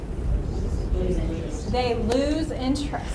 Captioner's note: voiceover